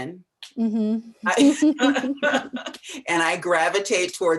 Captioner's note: laughter